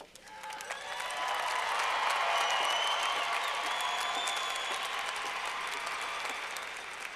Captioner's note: clapping